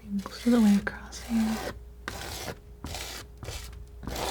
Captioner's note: scratching